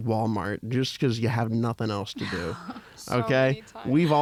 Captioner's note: laughter